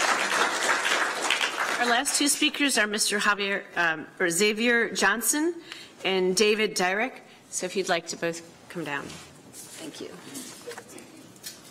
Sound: applause

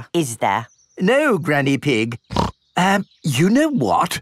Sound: snorts

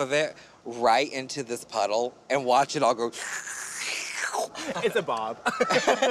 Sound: slurping

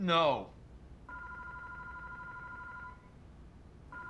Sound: loud ringing

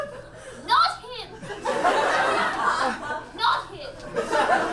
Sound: audience laughs

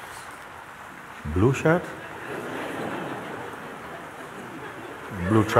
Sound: laughter

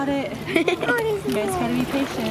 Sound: laughs

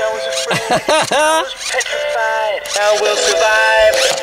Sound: laughs

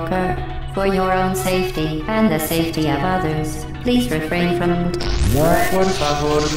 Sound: bzzzzzt

